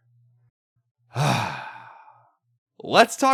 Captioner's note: sigh